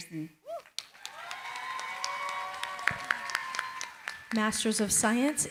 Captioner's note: cheering, applause